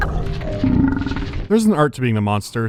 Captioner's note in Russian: рыгает